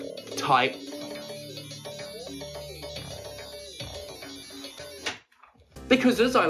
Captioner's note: pinball noises